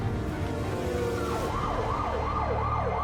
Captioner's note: sirens blaring